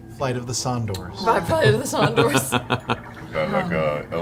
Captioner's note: laughs